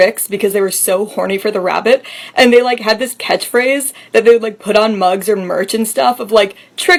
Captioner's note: none